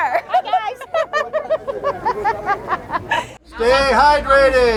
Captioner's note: laughter